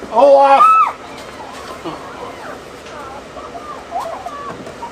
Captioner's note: assistant screams